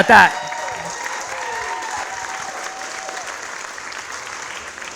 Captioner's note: audience applauds